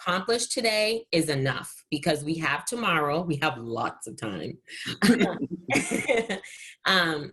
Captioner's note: giggles